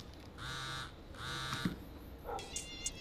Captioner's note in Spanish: Suena el celular